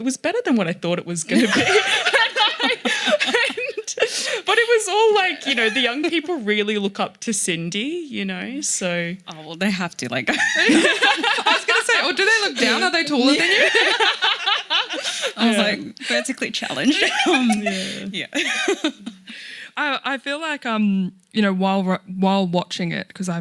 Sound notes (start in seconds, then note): 1.3 laughing; 10.7 laughing; 14.0 laughing; 17.4 laughing